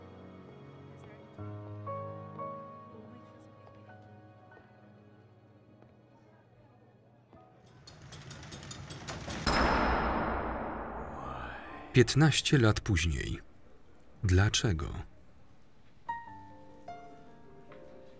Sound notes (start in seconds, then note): 7.9 loud clanging; 16.0 jazzy piano music